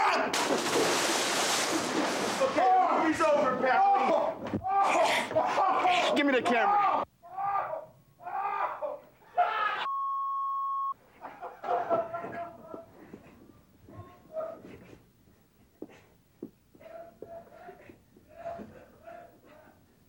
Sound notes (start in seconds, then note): 0.2 JJ yells; 0.4 water splashes; 8.2 Rick yelling